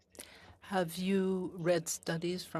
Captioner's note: speaking French